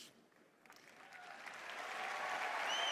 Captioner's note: applause